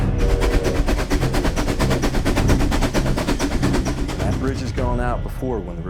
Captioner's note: train chugging